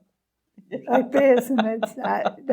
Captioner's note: laughing